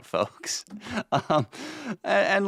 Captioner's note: chuckling